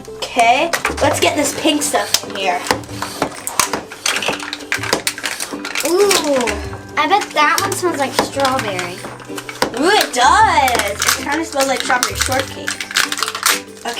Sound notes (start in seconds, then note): 3.2 plastic wrapper crunching; 3.2 pumping noise